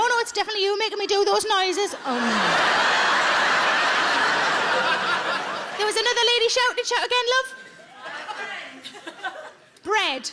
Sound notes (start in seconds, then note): 2.0 audience laughs